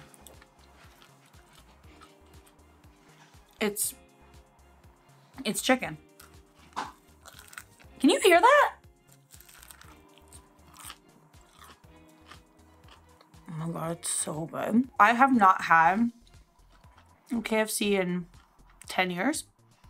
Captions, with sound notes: It's chicken. (crunching) Can you hear that? Oh my god, it's so good. I have not had KFC in ten years,